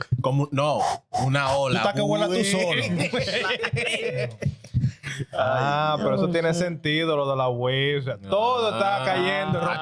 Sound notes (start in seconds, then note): 0.0 laughing; 0.0 speaking In Foreign Language